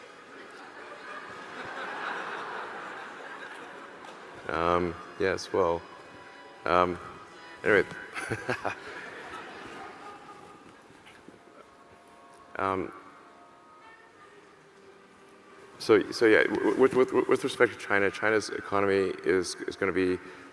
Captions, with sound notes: (audience laughing) - Um, yes, well, um, at any rate, (laughs) so with respect to China, China's economy is gonna be